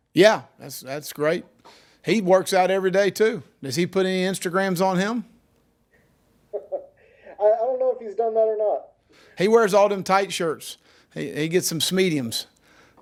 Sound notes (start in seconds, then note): 6.5 laughing